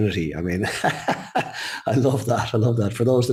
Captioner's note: laughs